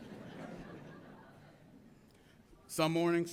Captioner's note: audience laughs